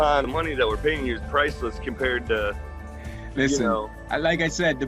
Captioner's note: murmurs